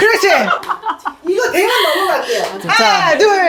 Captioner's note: laughing so hard they can't breathe